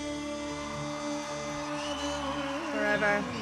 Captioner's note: audience cheering